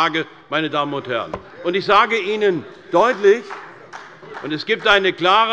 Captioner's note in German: Beifall des Abg